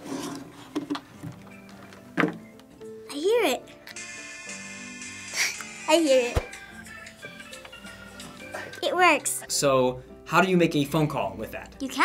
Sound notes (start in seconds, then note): 3.9 upbeat music; 5.4 laughs; 6.7 upbeat music